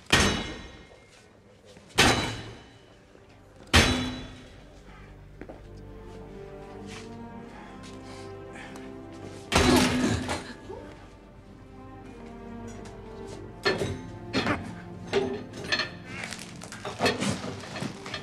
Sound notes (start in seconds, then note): 0.1 thudding continues; 8.0 cracking sound, gasps; 16.8 scraping